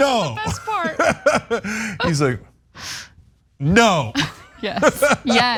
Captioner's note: laugh